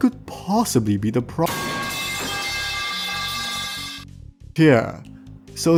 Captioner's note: metal_pipe.mp3